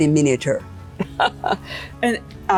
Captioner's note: laughter